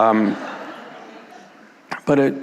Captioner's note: audience laughing